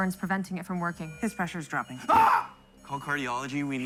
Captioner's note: screams